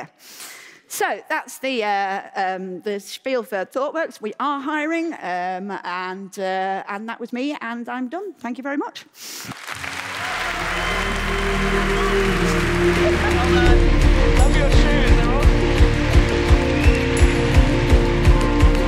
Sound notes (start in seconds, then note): 8.8 cheering and Applause